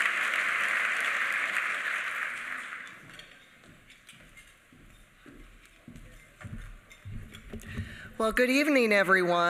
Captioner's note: applause